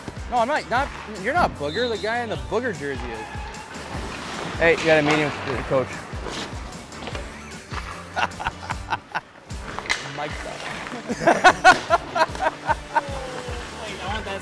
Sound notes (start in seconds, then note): 7.9 chuckling; 10.8 laughing